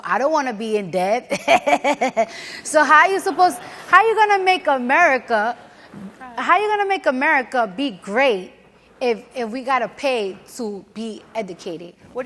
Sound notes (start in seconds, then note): 1.4 laughs; 1.4 audience laughs